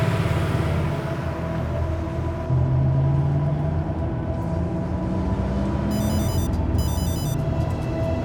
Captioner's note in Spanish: timbre de teléfono